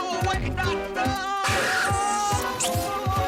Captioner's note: screaming